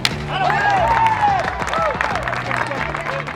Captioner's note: cheering